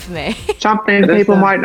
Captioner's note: laughs